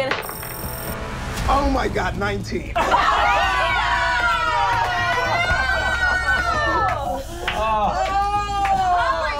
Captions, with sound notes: Not gonna. - Oh my god, a 19. (laughing) (screaming)